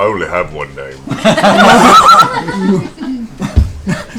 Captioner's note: laughter